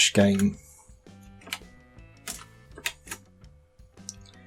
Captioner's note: clicking